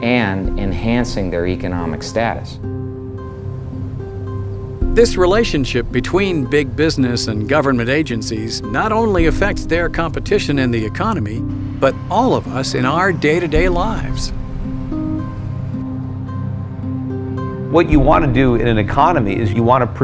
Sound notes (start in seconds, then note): 5.4 voiceover